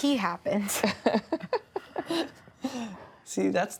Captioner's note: laughing